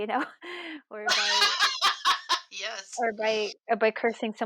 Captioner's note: laughs